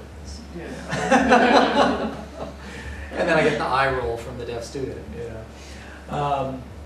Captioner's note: laughter